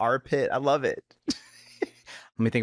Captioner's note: chuckles